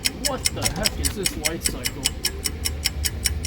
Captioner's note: ticking continues